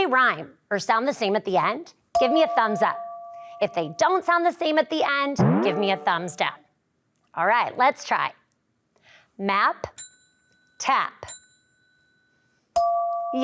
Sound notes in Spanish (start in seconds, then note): 2.1 campanillas de audio; 5.4 audio boings; 10.1 tintineo de audio; 12.8 campanillas de audio